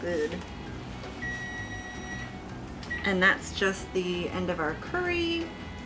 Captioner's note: timer beeps